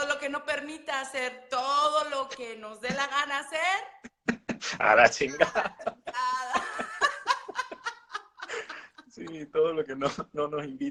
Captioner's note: Risas